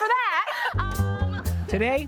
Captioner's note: laughing; low rhythmic music